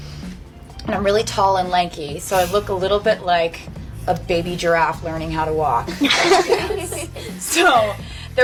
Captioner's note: laughter